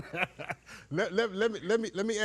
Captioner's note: judge laughing